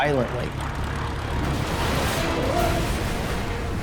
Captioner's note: metal tearing